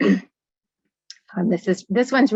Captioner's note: clearing throat